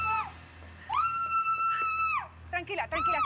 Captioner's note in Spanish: gritos